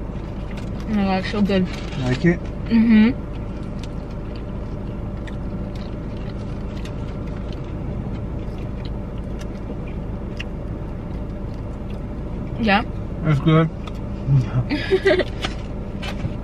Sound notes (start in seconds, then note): 0.0 chewing noises; 4.8 chewing noises; 14.7 laughter